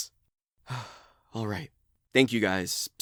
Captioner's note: sighs